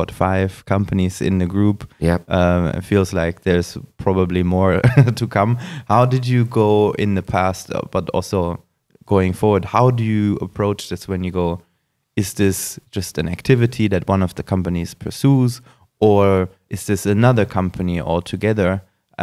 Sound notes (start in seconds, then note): 5.0 laughs